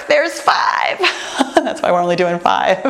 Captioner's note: laughs